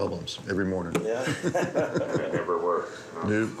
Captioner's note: laughs